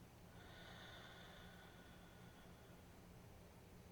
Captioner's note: exhaling deeply